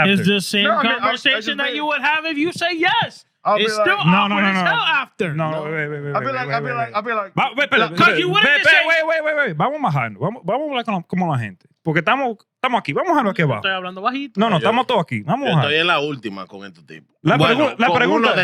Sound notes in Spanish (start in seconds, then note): 11.5 Hablando en idioma extranjero